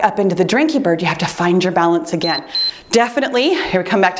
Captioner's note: timer beeps